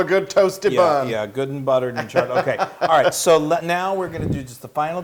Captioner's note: laugh